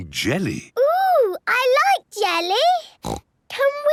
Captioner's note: snorts